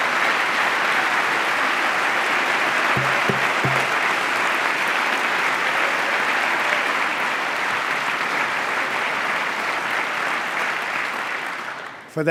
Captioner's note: applause